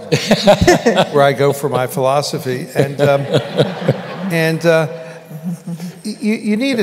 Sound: laughter

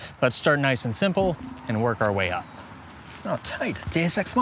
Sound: faint ping

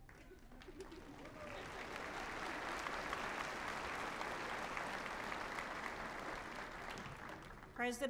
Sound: applause

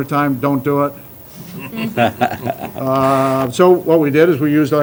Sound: laughter

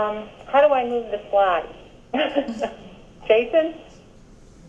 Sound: laughs

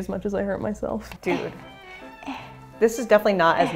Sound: struggling groaning

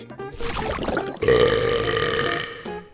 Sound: burping

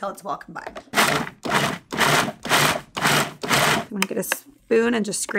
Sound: repeated grinding

